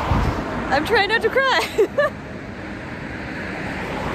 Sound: laugh

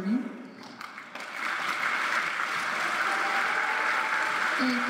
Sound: applause

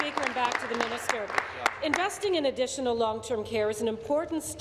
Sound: applause

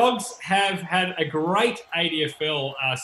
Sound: laughing

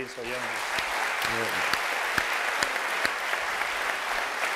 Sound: applause

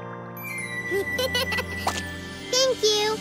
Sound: laughing

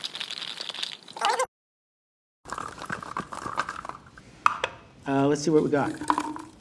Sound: shaker rattling; fast-forward squeaking

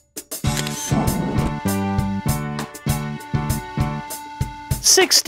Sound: SFX: Camera Shutter

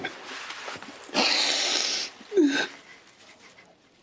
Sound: Aaron sobs

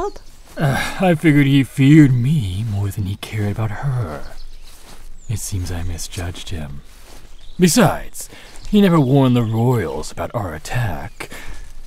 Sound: groan

